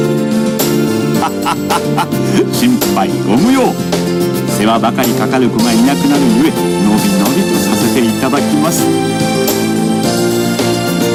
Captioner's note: sobbing